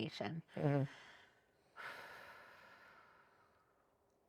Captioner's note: sighs